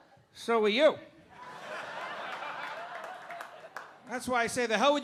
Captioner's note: audience laughing